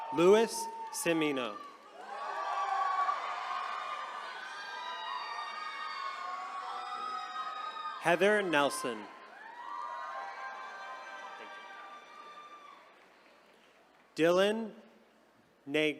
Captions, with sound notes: Louis Cimmino. (attendees cheering) Heather Nelson. (attendees cheering) Dillan Nagrik.